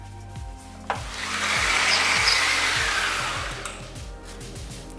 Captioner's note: slider buzzes